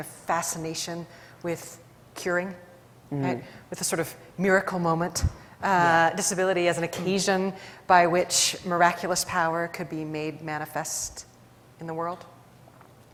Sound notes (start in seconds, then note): none